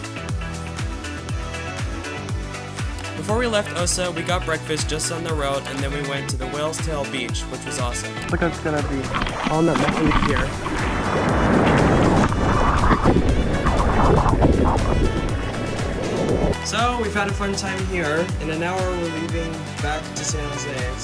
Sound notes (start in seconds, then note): 3.2 voiceover